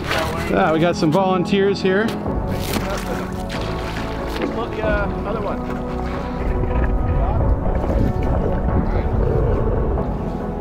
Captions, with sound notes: - [Male Voice] We got some volunteers here. (water splashes) - [Male Voice] Other one. (uplifting music)